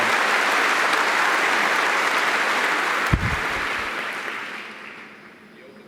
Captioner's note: audience applauding